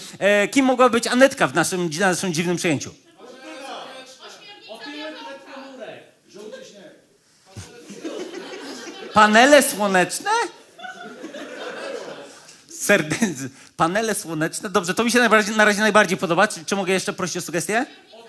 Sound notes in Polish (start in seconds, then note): 3.2 okrzyki publiczności; 10.6 śmiech